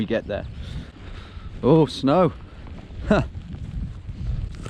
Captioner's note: laughs